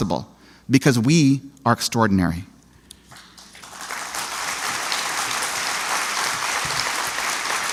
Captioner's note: applause